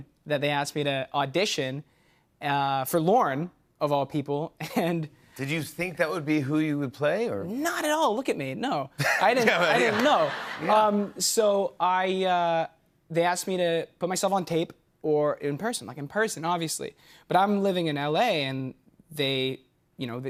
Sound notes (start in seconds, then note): 9.0 laughter